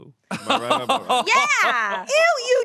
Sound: laughs

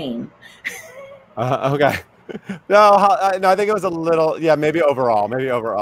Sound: laughing; laughs

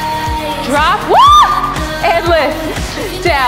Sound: screams

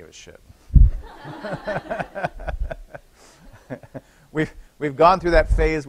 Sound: laughter

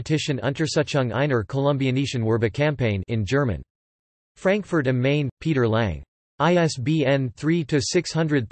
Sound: in German

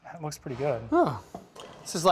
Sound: sighs

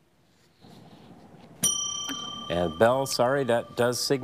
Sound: bell dings

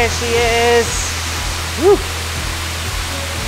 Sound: water Rushing

